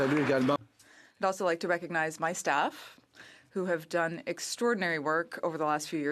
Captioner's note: applause